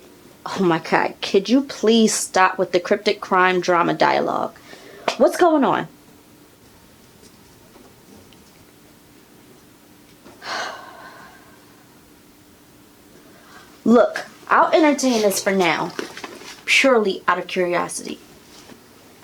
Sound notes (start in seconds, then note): 10.4 sigh